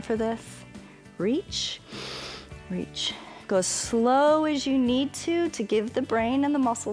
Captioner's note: inhales